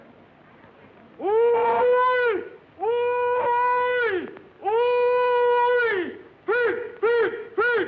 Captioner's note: hollering